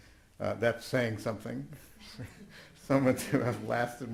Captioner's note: chuckles